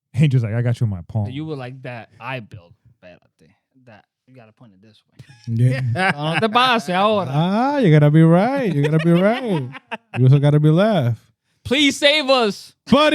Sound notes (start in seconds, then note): 5.2 laughing